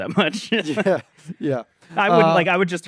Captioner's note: laughs